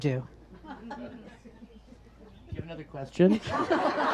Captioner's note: audience laughs